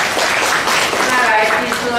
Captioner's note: applause